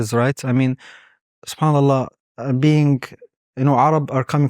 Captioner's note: speaking Arabic